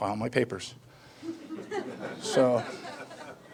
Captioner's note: audience laughing